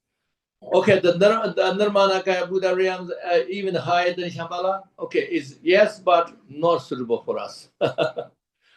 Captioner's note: laughs